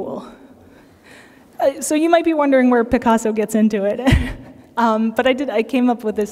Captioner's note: laughter